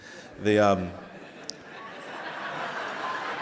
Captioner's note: laughing